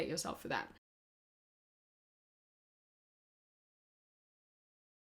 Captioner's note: audio removed for copyright reasons